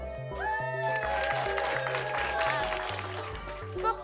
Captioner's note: everyone applauding